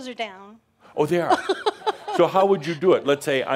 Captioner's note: she chuckles